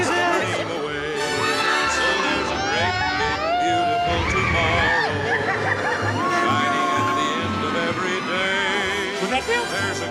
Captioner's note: screaming, ambient noise